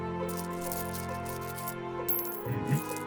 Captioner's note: coins clinking